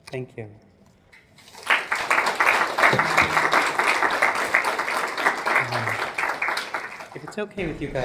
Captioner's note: applause